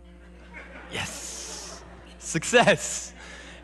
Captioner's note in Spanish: Risas